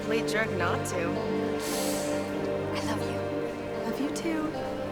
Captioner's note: gasps